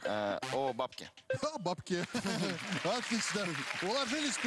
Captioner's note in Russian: смех